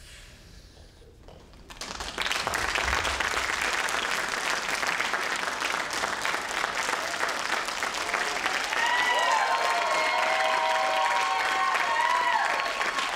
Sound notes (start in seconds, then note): 2.1 crowd applauds; 2.2 crowd cheers